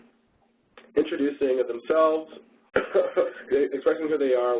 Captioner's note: coughs